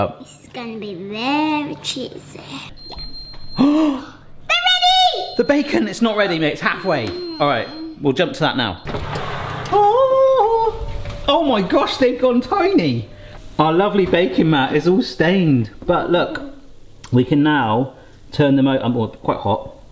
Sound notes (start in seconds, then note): 2.8 oven beeping